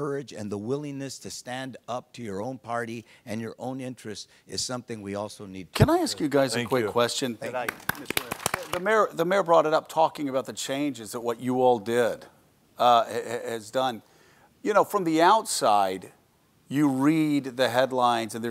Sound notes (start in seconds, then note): 7.5 audience applauds